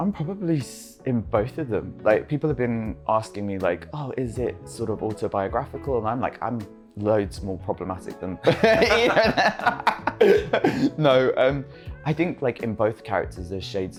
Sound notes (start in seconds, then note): 8.5 laughs